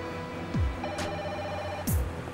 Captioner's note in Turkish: telefon çaliyor